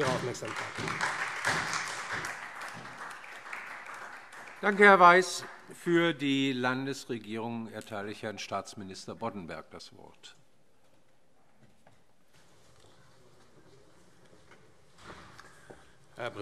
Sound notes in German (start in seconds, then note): 3.2 Beifall SPD